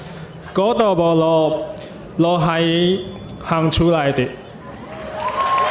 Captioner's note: speaking in foreign language